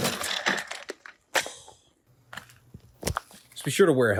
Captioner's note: crash